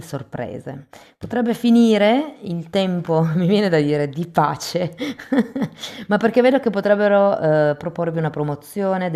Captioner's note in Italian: risate